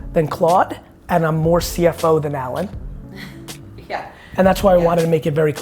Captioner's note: chuckles